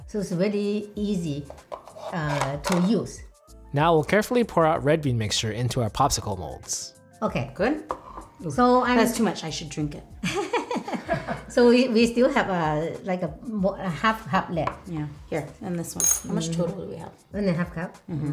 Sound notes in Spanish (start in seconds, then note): 10.2 risas